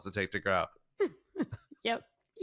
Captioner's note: chuckles